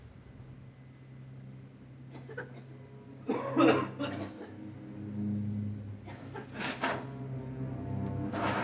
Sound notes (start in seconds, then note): 2.7 solemn music; 3.2 all coughing